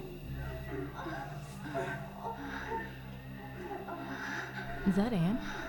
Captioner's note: people moaning